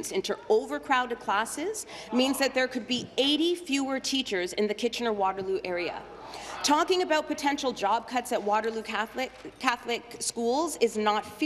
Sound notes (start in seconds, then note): none